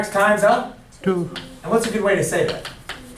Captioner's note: voiceover